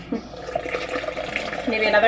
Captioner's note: pouring water